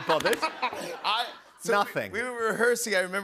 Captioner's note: laughter